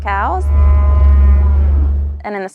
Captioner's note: cows mooing